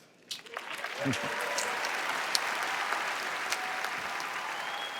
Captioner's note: applause